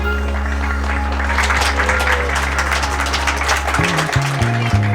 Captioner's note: audience claps